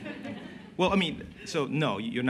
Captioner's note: laughter